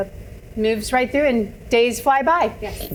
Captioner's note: none